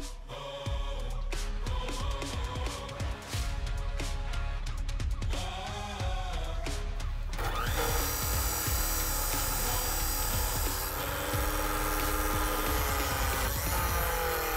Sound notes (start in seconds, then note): 1.3 upbeat rock music; 7.3 loud motor grinding